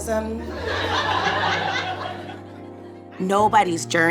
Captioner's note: audience laughs